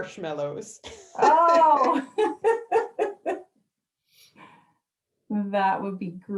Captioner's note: laughs